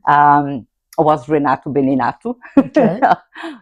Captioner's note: laughs